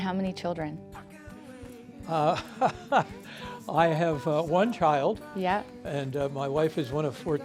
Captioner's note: laughing